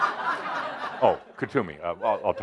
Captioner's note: laughter